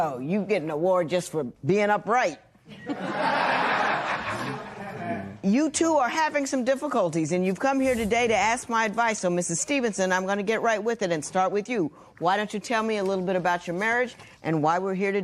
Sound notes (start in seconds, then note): 2.6 laughter